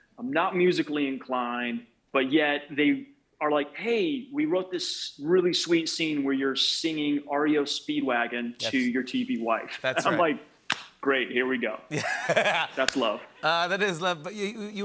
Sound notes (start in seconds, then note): 11.9 laughing